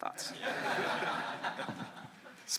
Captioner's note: laughter